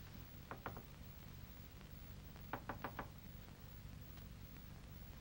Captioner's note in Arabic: يطرق بخفة